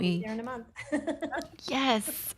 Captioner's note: laughs